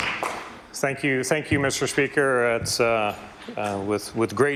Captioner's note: some Applause